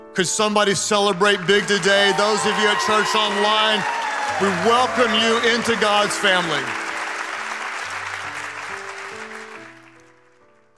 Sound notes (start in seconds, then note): 6.8 congregation applauding; 6.8 gentle music